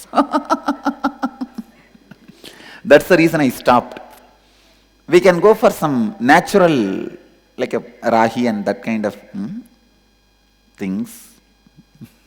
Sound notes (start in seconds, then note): 0.0 Swamiji laughs